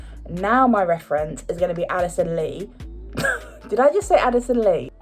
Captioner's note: laughs